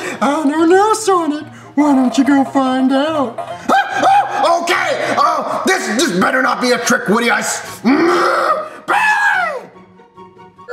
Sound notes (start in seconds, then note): 0.0 laughs; 3.6 yells; 7.5 growls